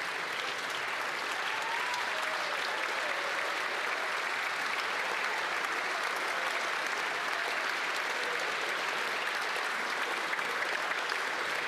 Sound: applause

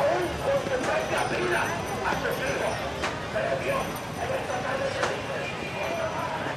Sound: loud hustle and bustle

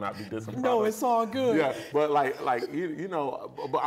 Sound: laughs

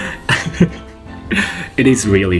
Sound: laughs

